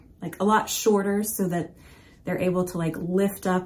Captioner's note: none